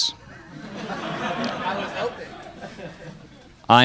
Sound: crowd laughs

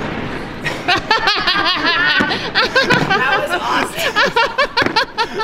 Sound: laughter

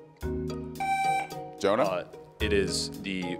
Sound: buzzer beeps

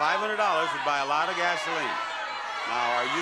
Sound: audience yelling

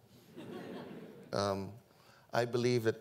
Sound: audience laughing

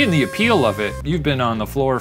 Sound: party horn blowing

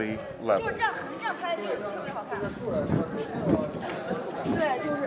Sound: tourists chatting

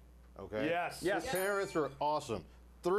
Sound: bell rings

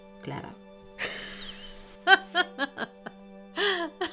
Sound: Ana laughs

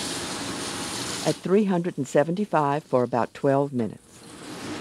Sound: voiceover

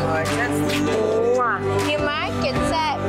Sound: kissing

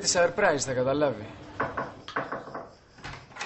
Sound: door knocking

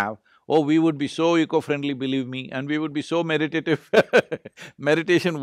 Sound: laughs

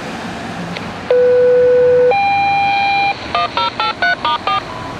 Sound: Station 8 Fire Tone

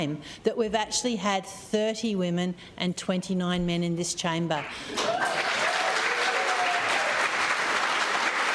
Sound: applause

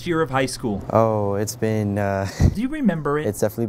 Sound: laughs

